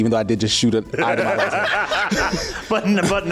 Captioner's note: laughs